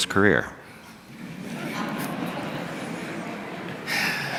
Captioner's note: laughter